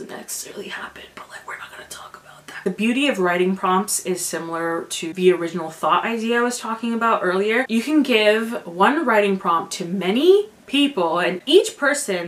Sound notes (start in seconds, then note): 0.9 whispers